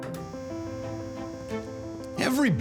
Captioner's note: electric buzz